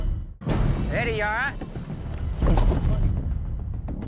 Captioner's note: thud; tense music